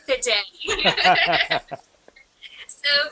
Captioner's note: laughter